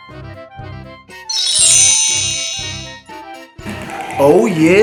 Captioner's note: magical ting